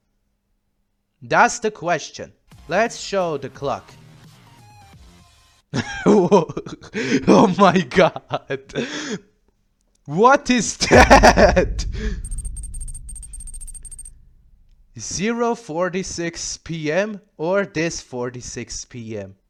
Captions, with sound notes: That's the question. Let's show the clock. [laughter] [gasp] Oh my god! [gasp] What is THAT? 0:46 pm or this 46 pm.